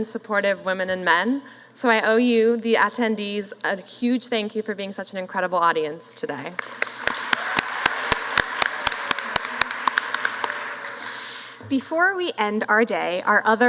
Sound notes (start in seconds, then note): 6.5 applause